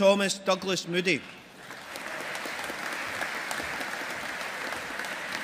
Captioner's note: audience applauding